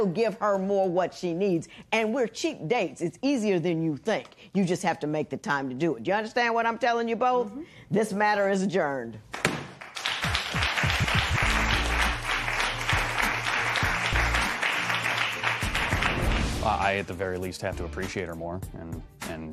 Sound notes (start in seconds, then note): 9.3 applause; 9.6 gavel bangs